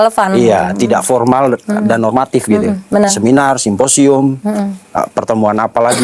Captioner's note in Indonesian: berdehem